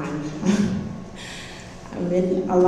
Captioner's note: laughs